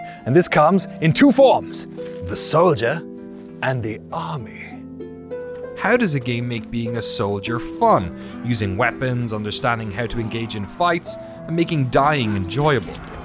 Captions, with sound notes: And this comes in two forms, the soldier and the army. (SPEAKING NORMALLY) How does a game make being a soldier fun? Using weapons, understanding how to engage in fights, and making dying enjoyable?